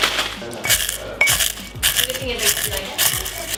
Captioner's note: crunching